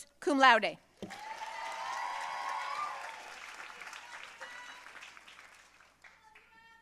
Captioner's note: audience cheering and applauding